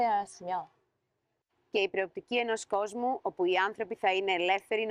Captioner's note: speaking greek